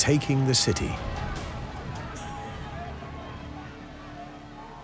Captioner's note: clamouring